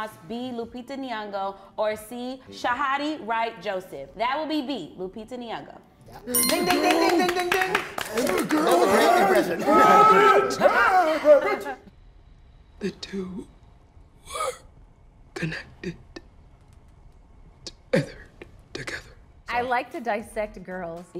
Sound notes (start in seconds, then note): 6.3 bell dinging; 10.0 cast applauding; 11.0 cast chattering